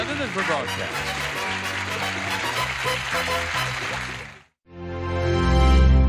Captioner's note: applause